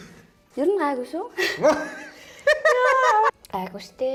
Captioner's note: laughs